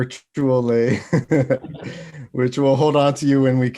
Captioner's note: laughs